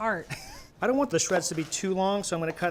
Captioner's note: laughs